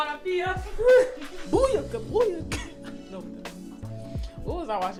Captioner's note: laughter